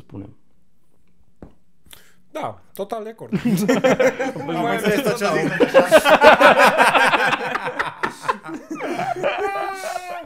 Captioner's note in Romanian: Râsete